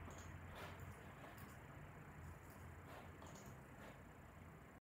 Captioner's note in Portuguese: Som ambiente